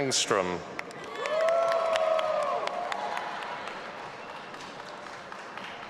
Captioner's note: audience applauding and cheering